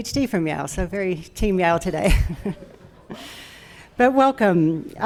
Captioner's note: chuckles